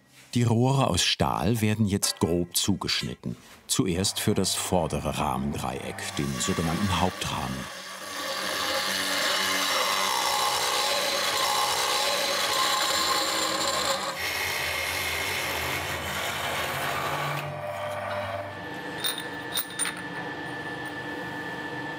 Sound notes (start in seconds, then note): 8.3 whirring